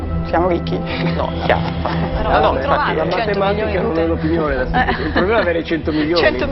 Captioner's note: laughts